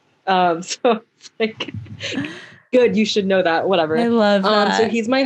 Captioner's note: laughs